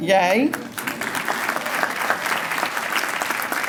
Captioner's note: applause